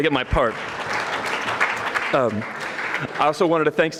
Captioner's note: audience clapping